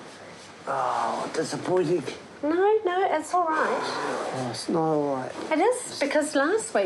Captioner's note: sighs